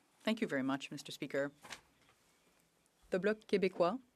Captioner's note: speaking French